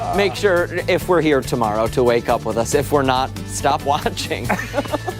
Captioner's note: laughter